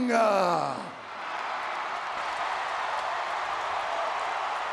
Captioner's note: audience cheering